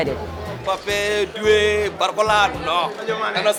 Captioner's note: non-english speech